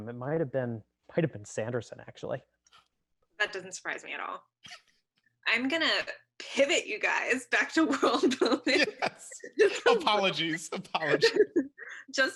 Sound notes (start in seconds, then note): 8.1 laughs